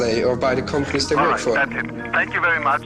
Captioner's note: on phone